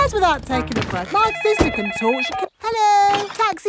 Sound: cellphone ringing

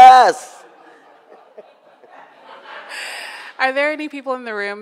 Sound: audience laughs

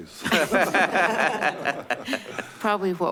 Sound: laughing

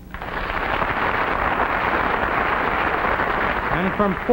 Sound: audience clapping

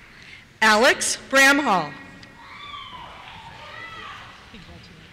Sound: cheers

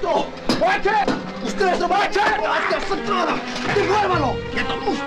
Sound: all yelling

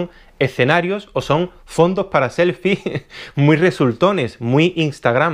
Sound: giggles

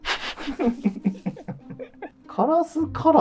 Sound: laughing

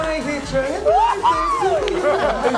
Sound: screaming

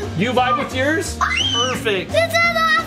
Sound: screaming

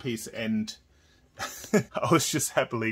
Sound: laughs

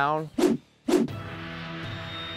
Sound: whooshing; dramatic music

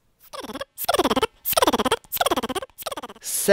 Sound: funny motor sound goes

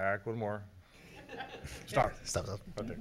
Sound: laughing

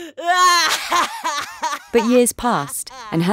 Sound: Naomi sobbing

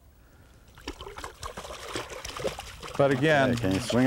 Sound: splashing

